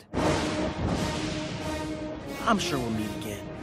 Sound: thunder crashing

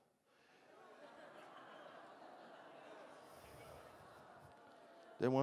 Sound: congregation laughing

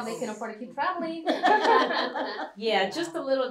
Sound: laughter

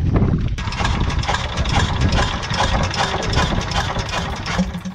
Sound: engine starting

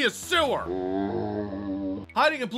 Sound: zombie sound

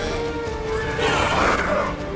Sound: screeching

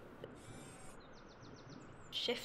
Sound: whirring robotic sounds

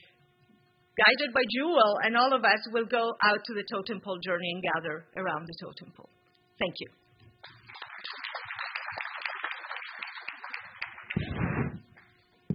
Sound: applause

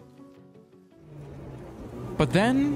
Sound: music fades; truck driving

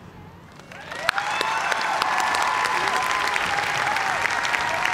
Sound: cheers and applause

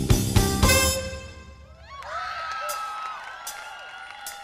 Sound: crowd cheers

